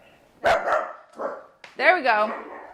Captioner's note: dog barking